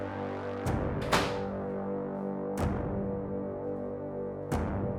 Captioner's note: door banging